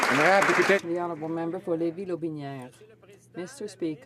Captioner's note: some Applause